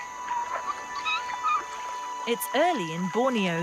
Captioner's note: water rustling; orangutans squeaking